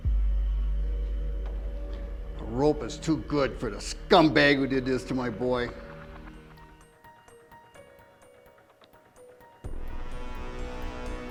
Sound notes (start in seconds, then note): none